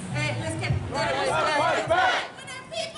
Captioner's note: crowd